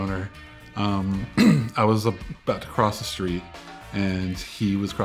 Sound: clears throat

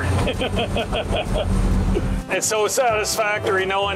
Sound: laughs

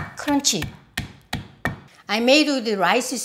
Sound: pestle thudding

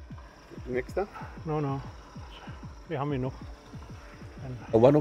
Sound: speaking in Urdu

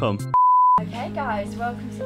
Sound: high pitched beeping noise

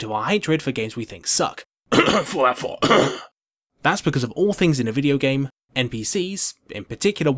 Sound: cough

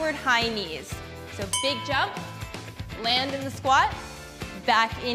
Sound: bell chimes

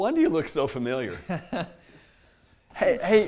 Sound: laughs

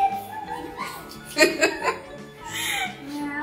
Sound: laugh

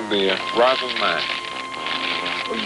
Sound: paper crinkling

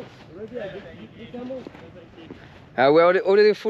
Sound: speaking in foreign language

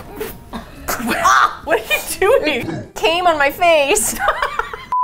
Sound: laughs

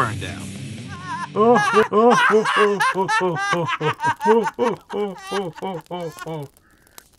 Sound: laughing

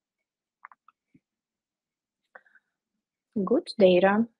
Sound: keyboard clicking

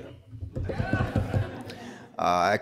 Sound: crowd laughs

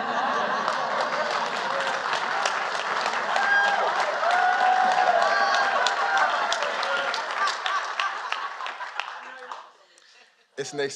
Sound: applause

